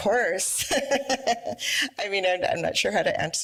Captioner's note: laughs